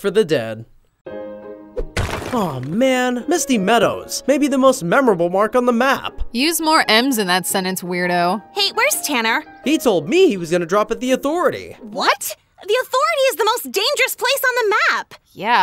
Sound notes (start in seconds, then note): 1.2 upbeat calm music; 1.8 wall smashing